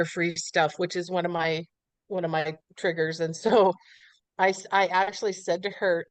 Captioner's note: laughs